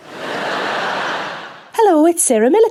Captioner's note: audience laughing